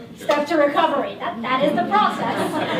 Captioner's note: laughter